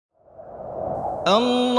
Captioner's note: air swooshing